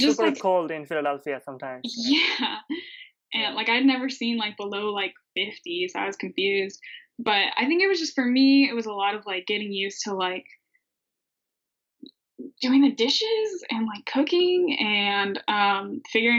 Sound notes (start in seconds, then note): 1.7 laughing